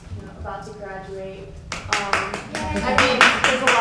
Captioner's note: panelist claps